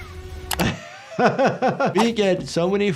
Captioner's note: laughing